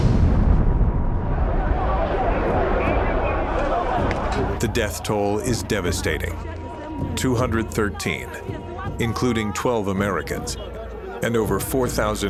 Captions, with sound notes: [explosion] [indistinct chatter] The death toll is devastating. 213, including 12 Americans, and over 4,000 more injured